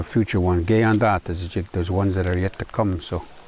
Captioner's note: non-english speech